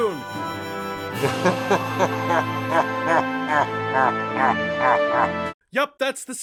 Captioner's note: evil Laughter